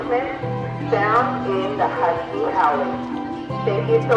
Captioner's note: faintly speaking